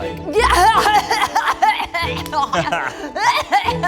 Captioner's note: laughs